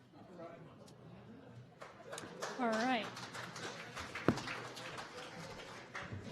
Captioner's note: sporadic applause and laughter